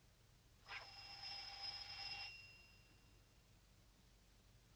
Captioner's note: doorbell buzzing